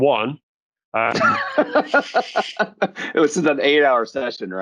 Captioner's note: laughs